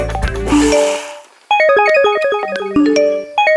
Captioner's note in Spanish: frenazo de bicicleta